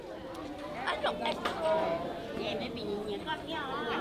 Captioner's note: kids chattering